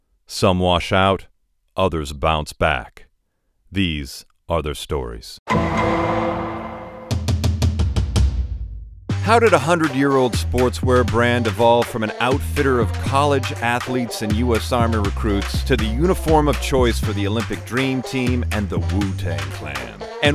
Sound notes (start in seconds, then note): 5.4 Law & Order sound effect; 6.9 upbeat music